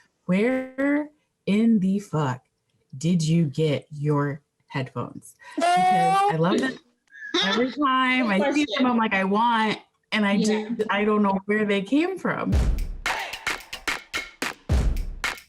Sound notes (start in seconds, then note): 7.2 laughing; 12.6 upbeat music